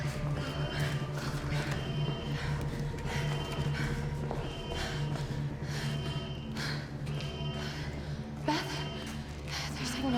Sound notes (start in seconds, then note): 0.1 panting